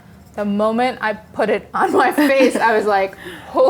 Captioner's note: everyone laughs